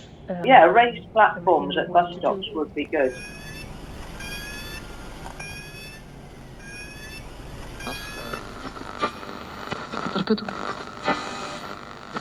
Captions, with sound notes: Yeah, raised platforms at bus stops would be good. (static radio interference)